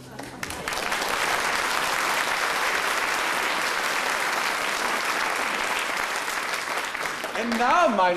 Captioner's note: applause